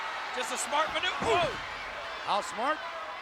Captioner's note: audience cheering; kick thuds